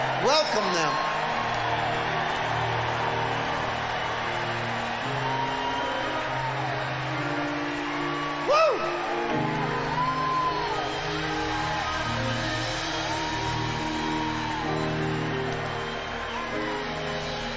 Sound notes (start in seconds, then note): 3.2 audience cheering loudly; 10.2 audience cheering loudly